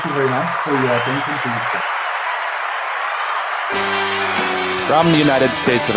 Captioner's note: applause